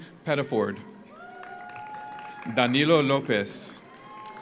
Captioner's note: audience cheers; audience applauds